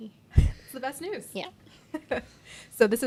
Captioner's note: chuckling